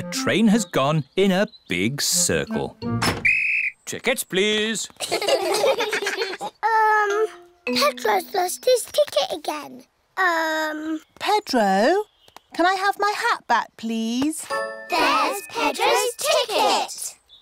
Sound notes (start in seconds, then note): 3.2 blows whistle; 5.0 all laugh